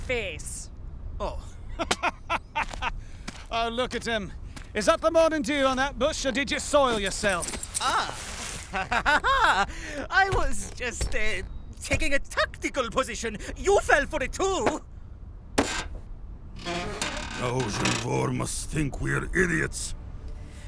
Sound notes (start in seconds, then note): 1.8 laughs; 13.0 defensively